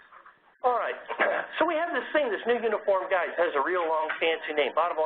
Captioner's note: cough